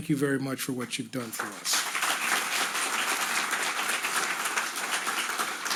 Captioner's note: audience applauding